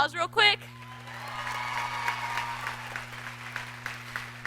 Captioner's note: audience clapping